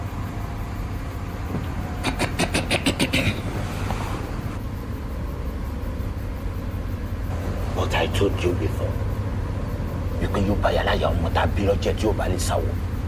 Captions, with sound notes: (man clearing throat) - But I told you before, (speaking in foreign language).